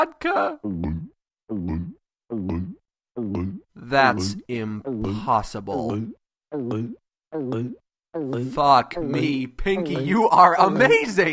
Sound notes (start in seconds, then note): 0.5 chugging